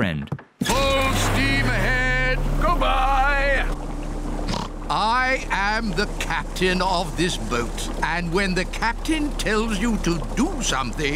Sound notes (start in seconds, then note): 4.4 oinks